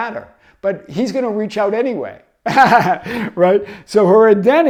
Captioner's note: laughs